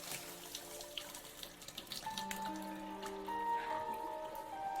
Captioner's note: drain rattles